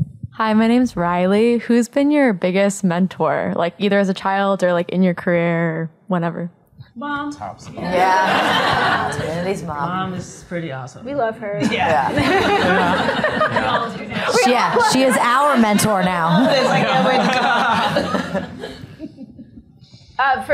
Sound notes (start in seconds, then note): 14.3 laughter